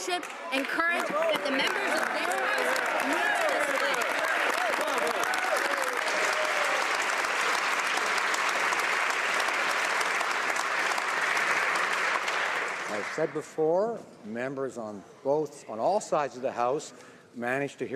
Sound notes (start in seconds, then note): 14.4 some Applause